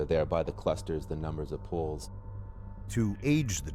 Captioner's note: voiceover